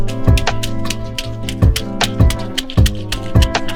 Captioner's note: stepping on the wet floor